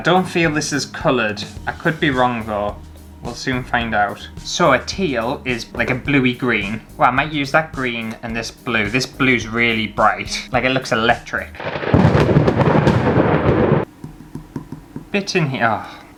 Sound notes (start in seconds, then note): 11.5 thunder Crashing